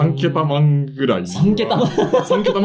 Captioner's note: laughs